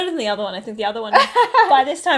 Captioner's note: laughs